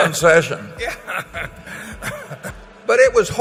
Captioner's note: laughter